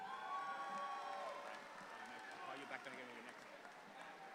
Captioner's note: audience applauds